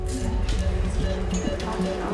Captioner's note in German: Piepen